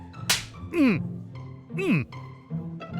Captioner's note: grunts